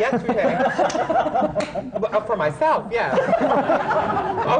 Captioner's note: laughter